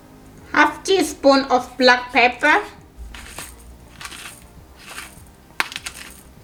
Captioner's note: pepper grinding